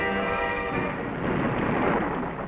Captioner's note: thunder rumbling